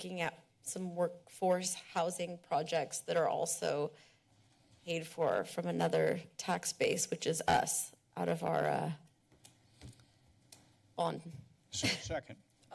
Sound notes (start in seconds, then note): 9.1 pause